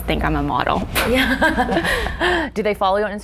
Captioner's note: laughing